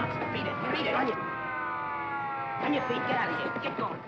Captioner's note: sirens wailing